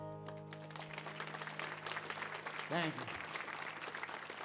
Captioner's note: audience applauds